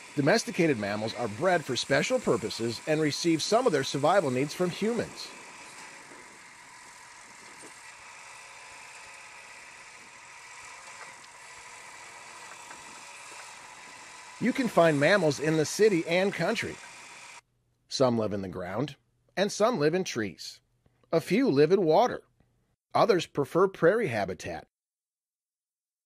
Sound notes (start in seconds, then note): 5.9 tractor sounds